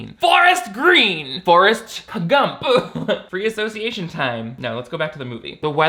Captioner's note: laughs